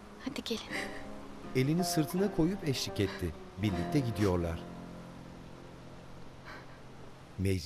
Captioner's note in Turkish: Müzik - Duygusal; Rüzgâr sesi